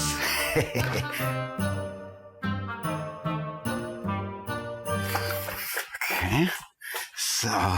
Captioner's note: laughing resolutely